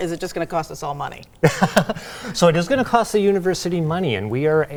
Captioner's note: laughs